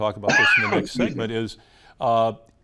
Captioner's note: coughing